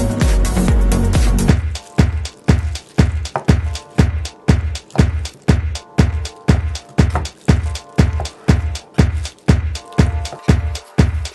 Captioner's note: cut some beef, cutting board getting hit by a knife sound in the background